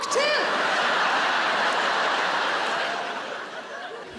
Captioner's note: audience laughing